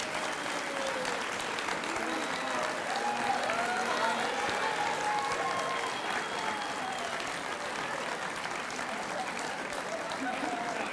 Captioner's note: applause